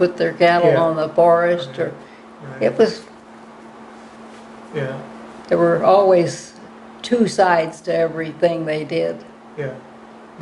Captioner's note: hands rubbing together